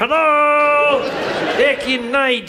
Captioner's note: audience laughs